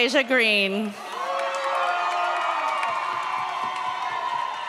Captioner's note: audience cheers